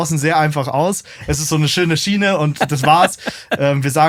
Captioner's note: lacht